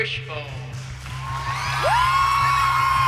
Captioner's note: cheering